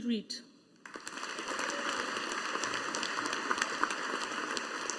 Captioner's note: audience applauding